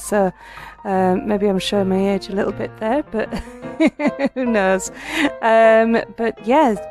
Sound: laughing

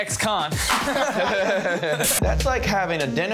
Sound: laughing

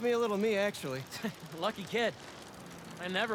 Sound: laugh

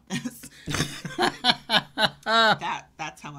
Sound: laughing

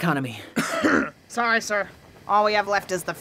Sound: cough

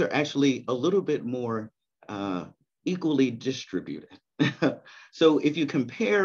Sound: chuckles

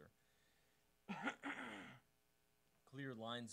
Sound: clearing throat

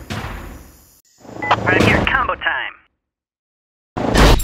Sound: over comm

